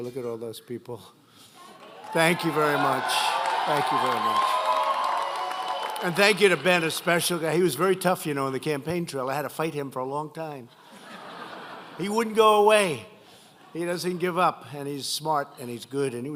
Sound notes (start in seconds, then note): 1.8 applause; 10.7 laughter